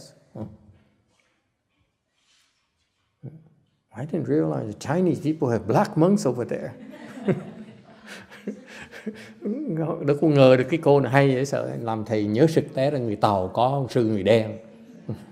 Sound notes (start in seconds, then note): 6.6 laughter